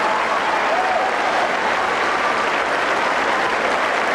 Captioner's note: applause